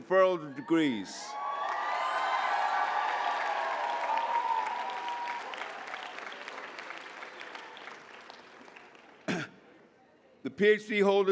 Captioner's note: applause